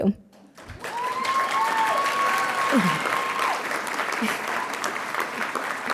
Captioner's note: audience cheering and applauding